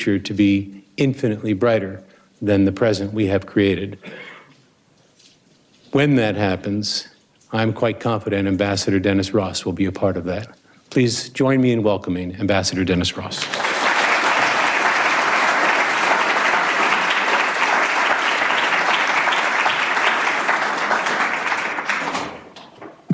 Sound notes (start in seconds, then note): 13.7 audience applauds